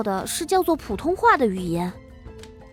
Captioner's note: Mandarin